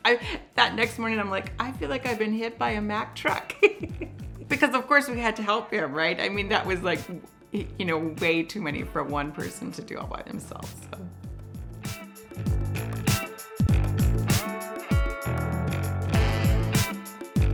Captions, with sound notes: That next morning, I'm like, I feel like I've been hit by a Mack truck (laughs) because of course we had to help him, right? I mean, that was like way too many for one person to do all by themselves. (upbeat music)